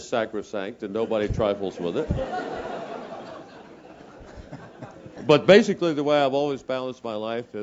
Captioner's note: laugh